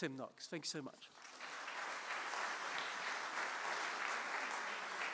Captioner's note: audience applauding